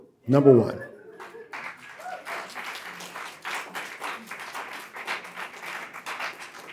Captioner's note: audience cheering and applauding